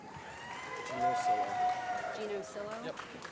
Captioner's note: applause